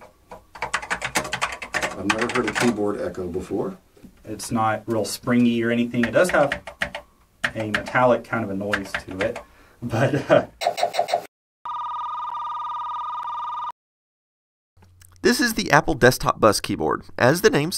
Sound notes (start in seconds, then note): 0.3 continues typing; 7.4 clicks keyboard; 9.8 laughs